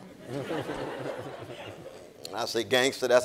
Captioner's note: audience laughing